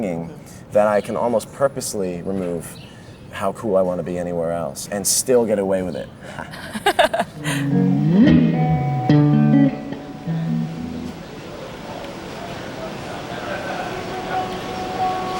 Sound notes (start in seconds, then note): 6.2 laughs; 7.3 strumming guitar